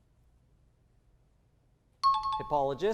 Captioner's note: high-pitched tones